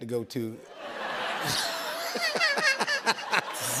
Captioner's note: laughter